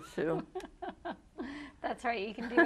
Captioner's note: laughs